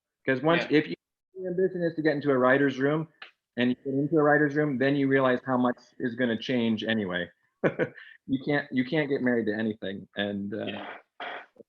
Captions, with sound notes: 'Cause if you're ambition is to get into a writers' room, and you get into a writers' room, then you realize how much is gonna change anyway. (laughs) You can't get married to anything.